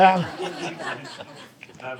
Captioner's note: audience laughing